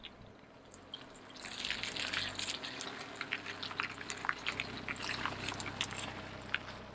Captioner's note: gravel crunching; engine running